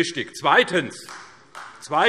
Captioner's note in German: Beifall